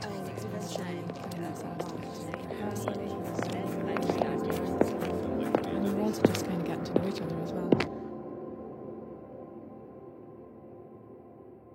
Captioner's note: footsteps